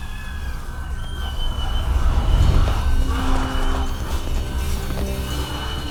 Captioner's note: distant screams